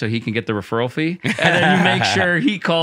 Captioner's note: laughter